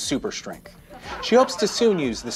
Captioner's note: audience laughs